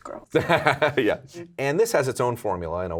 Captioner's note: laughing